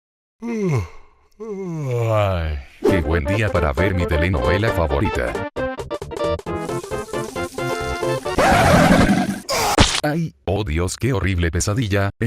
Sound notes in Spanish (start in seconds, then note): 8.3 Sonidos de cocodrilo; 9.5 Sonidos de muerte